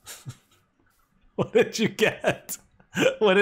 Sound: laughing

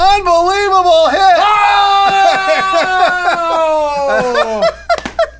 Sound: celebratory screaming; laughing

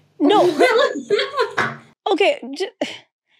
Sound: laughing

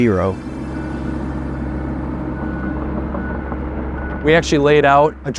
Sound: machine rumbling

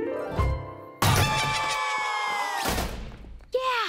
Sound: screaming

